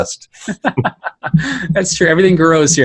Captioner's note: laughing